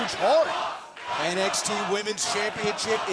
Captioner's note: crowd cheering